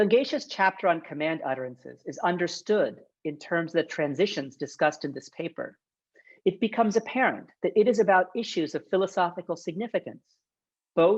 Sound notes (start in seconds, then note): none